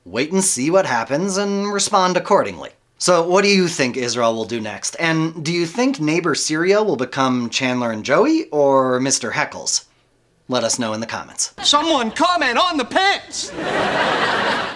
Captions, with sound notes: wait and see what happens and respond accordingly. So, what do you think Israel will do next? And do you think neighbor Syria will become Chandler and Joey or Mr. Heckles? Let us know in the comments. - Someone comment on the pants! (audience laughing)